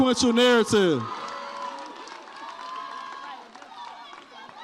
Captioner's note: audience cheers